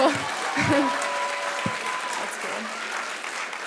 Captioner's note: clapping